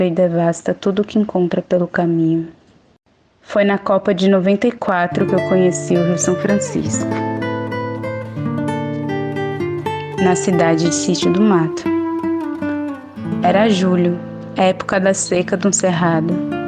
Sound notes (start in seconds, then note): none